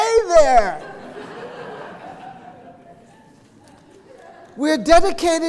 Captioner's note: audience laughing